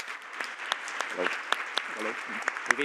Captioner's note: Aplodit